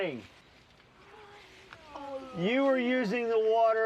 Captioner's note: children groaning